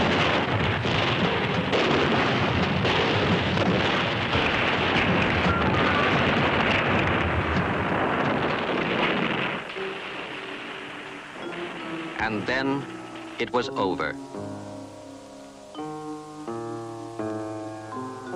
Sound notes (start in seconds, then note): 6.1 artillery booming continues; 14.6 gentle unsettling music